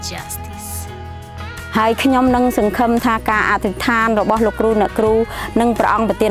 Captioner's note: partner speaking in foreign language